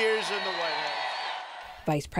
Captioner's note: cheering and applause